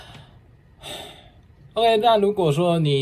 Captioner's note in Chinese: 不知道人生價值在哪的嘆氣聲^^